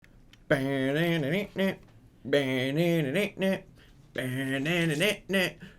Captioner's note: making music sound effects